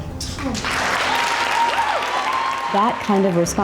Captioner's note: audience cheering